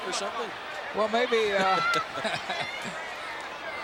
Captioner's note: laugh